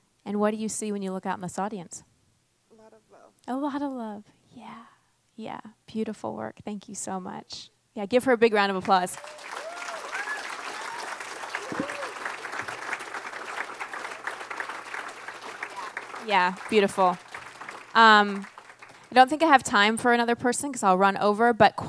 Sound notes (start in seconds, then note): 9.4 audience applauds and cheers